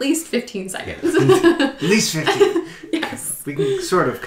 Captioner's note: laughing